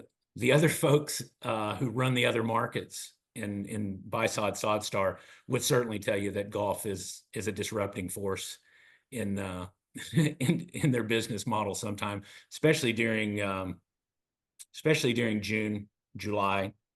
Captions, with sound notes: The other folks who run the other markets in buy sod, sod star, would certainly tell you that golf is a disrupting force [LAUGH] in their business model sometime, especially during June, July.